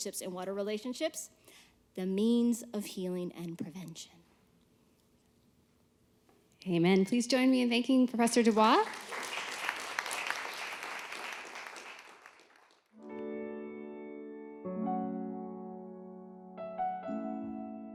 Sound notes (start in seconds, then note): 8.3 applause